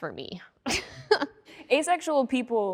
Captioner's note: laughing